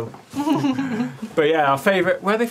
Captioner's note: laughing